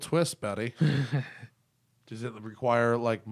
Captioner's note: laughter